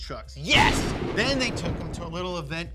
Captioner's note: lightening striking